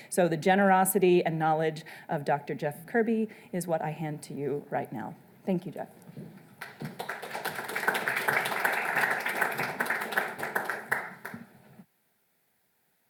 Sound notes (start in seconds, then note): 6.6 audience applauds